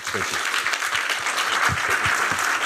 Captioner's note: applause